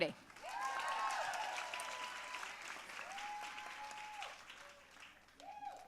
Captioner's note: audience cheering and applauding